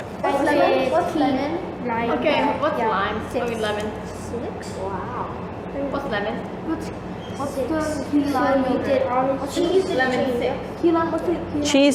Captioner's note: background noise of kids talking about pH strip levels